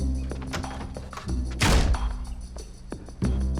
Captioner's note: slams door